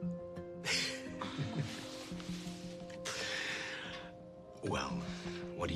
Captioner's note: both chuckle